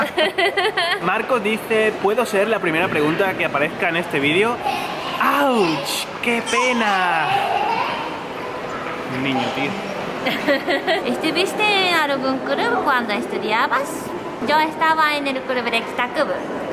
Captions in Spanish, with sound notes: ¡Ouch! ¡Qué pena! (Gritos de un niño) Un niño tío... Yo estaba en el club...